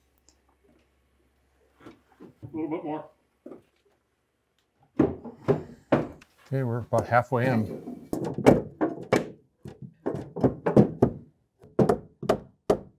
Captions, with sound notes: Little bit more. Okay, we're about halfway in. (hammering)